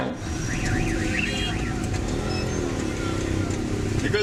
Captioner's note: engines sound